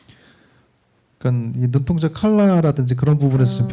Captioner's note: speaking korean